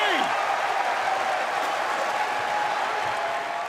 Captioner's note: crowd cheering